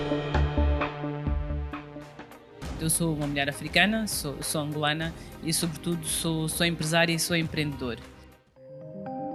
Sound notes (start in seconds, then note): 5.3 speaking foreign language